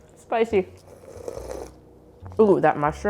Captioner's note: slurping